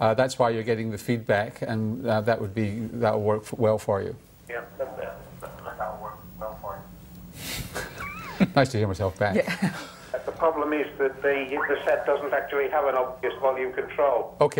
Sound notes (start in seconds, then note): 4.4 voice echoes; 9.3 laughter